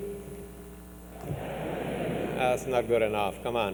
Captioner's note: crowd